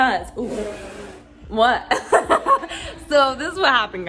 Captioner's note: laughing